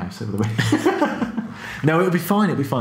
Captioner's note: laughing